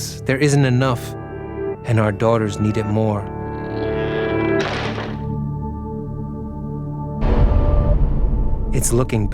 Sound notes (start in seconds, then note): 5.0 door clattering; 5.2 soft uneasy music